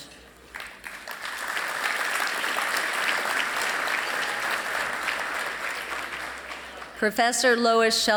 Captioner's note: applause